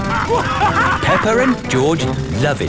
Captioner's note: both laughing; drilling